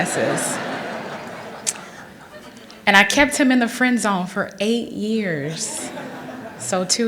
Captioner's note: laughter